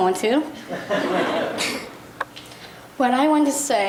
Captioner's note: laughter